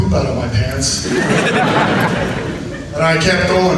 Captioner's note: audience laughs